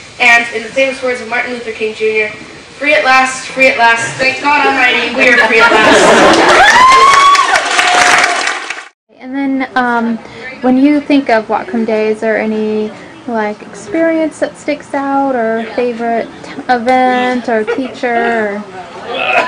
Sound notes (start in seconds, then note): 6.3 laughter; 7.8 applause